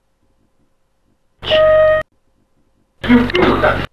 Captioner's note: bell sound